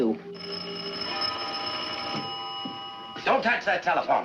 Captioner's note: telephone ringing